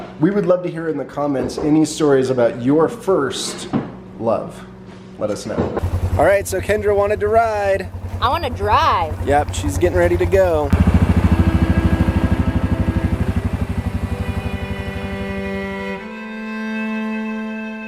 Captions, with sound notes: We would love to hear in the comments any stories about your first love, let us know. Alright, so Kendra wanted to ride. - I wanna drive. - Yeah, she's getting ready to go. (ATV revs) (gentle music)